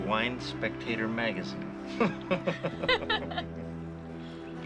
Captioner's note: Jeff and Jill chuckle; soft music